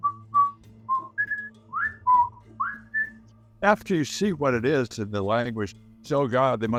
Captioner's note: whistling